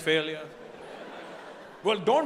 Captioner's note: audience laughing